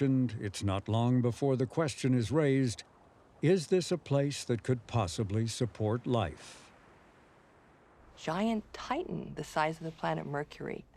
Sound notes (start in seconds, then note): none